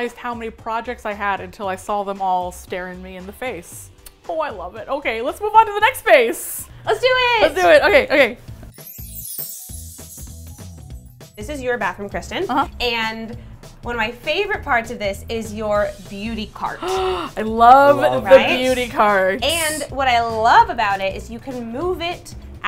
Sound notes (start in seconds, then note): 8.7 tinkly sounds; 16.7 gasps